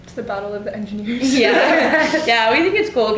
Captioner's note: all ladies laugh